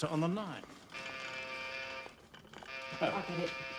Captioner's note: bel pintu berbunyi